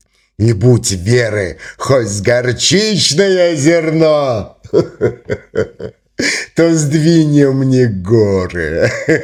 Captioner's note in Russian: смех